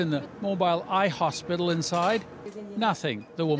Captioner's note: speaking chinese